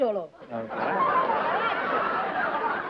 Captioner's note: laughter